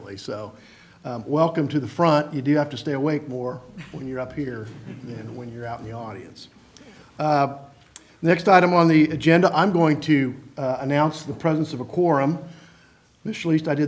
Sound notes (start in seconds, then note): 6.4 laughter